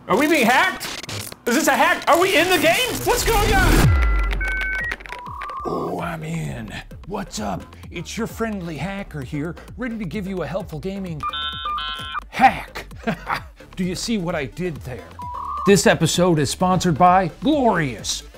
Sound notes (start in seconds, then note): 3.9 dial-up ringing; 11.2 dial-up ringing; 12.7 chuckles